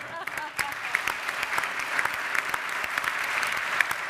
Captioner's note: all applauding